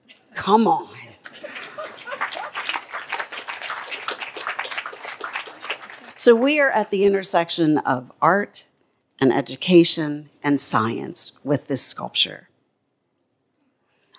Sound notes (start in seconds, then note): 1.2 applause